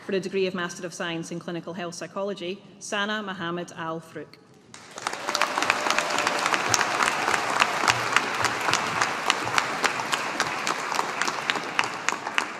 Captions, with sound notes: For the degree of Master of Science in Clinical Health Psychology, Sanaa Mohammad Al Froukh. (AUDIENCE APPLAUDING)